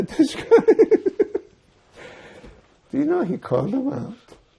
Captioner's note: laughing